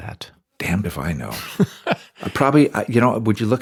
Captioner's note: laughs